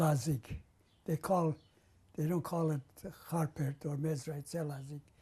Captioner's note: non-english